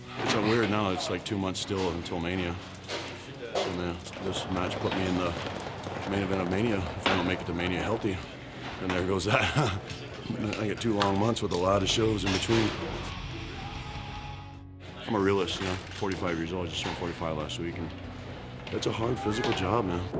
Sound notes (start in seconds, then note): 9.3 laugh